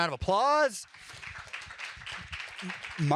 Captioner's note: applause